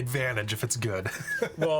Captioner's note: laughing